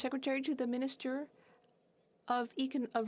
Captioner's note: speaking French